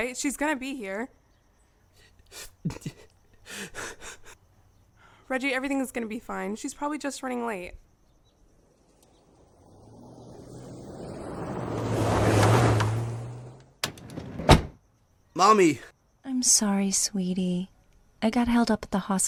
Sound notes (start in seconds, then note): 10.9 car engine; 15.3 car door close